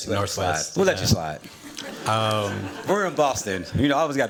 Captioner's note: laughter